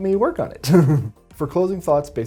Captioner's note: chuckles